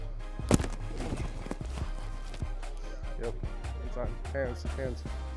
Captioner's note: thud